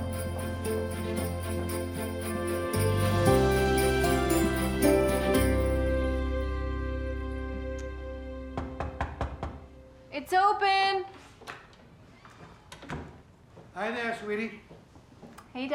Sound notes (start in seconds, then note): 8.6 knocking